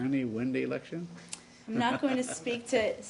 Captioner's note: laughter